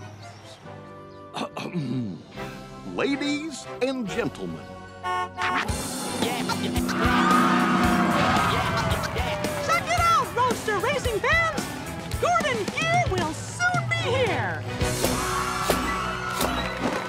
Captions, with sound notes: ( whispering ) ( clears throat ) Ladies and gentlemen... ( horn honks ) Check it out, roadster racing fans. Gordon Gear will soon be here.